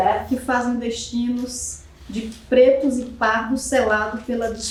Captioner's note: speaking portuguese